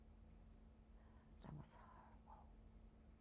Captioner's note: whispering